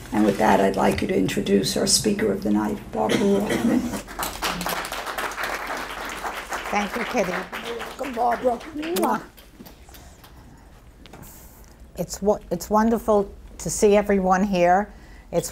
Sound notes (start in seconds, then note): 4.0 audience applauds; 8.9 kiss smacks